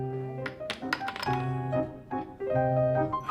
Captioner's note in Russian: стук шахматных фигур